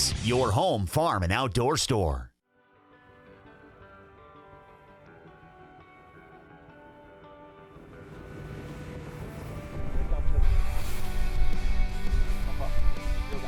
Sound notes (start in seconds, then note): 3.1 gentle guitar; 7.6 boat engine humming; 9.6 energetic guitar music; 9.8 wind blowing